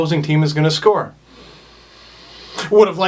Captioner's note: wistful inhale